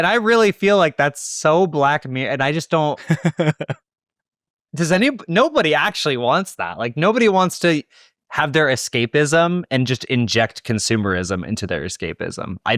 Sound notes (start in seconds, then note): 3.0 laughing